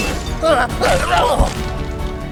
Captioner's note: grunts